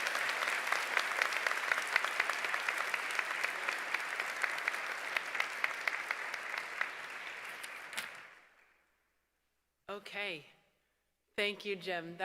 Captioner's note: applause